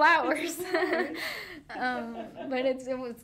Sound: both laughing

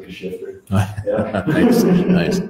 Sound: laughs

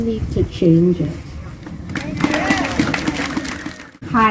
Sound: applause

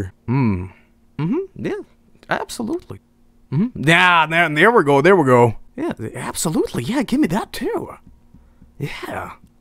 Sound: none

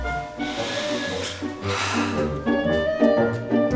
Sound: inhales

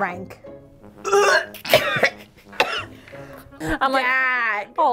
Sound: horn honks; gags

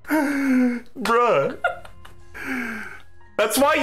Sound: laughing

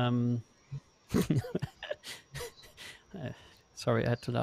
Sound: laughs

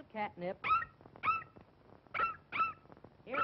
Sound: excited Barking

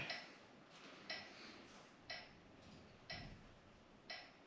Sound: metronome ticking

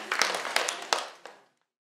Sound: applause

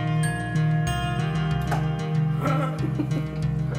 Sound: laughing

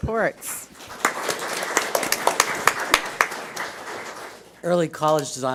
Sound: audience applauds

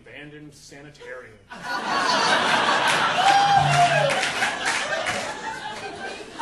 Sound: audience laughing

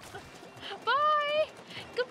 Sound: laughing

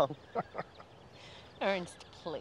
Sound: laughing

